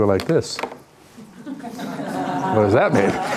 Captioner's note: laughing